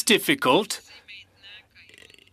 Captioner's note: speaking French